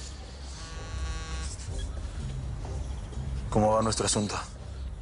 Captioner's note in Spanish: Suena el celular